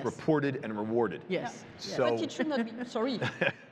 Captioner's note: chuckles